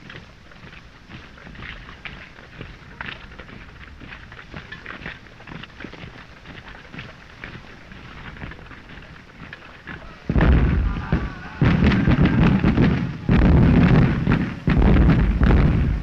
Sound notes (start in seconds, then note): 10.2 explosions; 13.2 guns firing